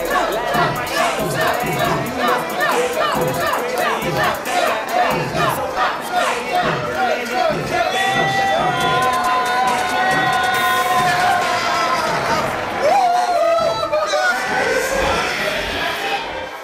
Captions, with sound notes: - [Crowd] Chug, chug, chug, chug, chug! (people cheering)